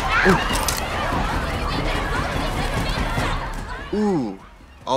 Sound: glasses crack

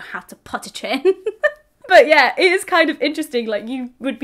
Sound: laughs heartily

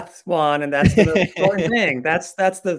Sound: laughing

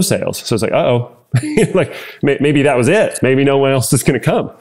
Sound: laugh

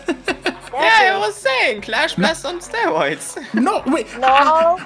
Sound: laughing; higher pitch; chuckles

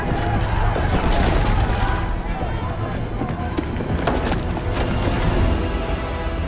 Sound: people screaming; ominous music

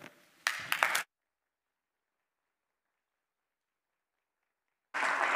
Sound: applause

